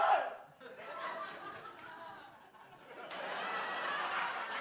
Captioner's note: audience laughs; audience cheers